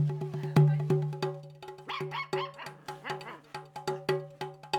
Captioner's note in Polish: Szczekanie